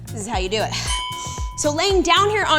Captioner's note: bell chimes